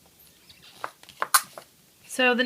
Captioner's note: clicks